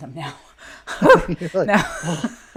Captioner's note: laughing